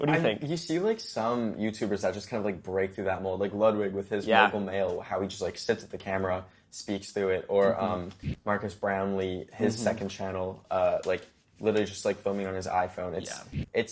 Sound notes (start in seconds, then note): 8.9 tv buzzes